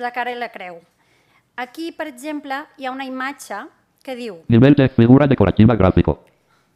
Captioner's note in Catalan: veu del lector de pantalla